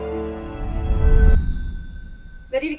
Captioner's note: intense Music continues; magical sound and whoosh